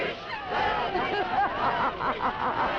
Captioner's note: crowd; Elizabeth laughing